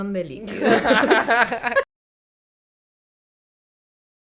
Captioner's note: laughs